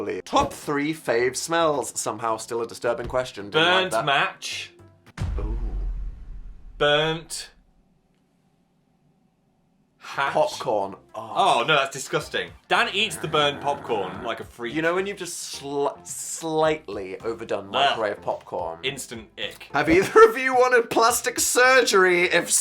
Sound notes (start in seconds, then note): 5.1 thud booms